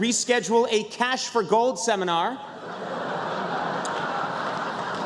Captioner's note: laughter